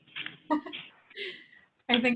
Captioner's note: person laughing